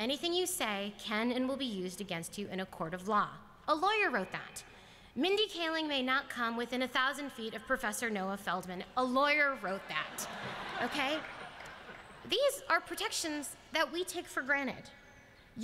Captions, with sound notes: Anything you say can and will be used against you in a court of law." A lawyer wrote that. "Mindy Kaling may not come within 1,000 feet of Professor Noah Feldman." A lawyer wrote that. [LAUGHTER] These are protections that we take for granted.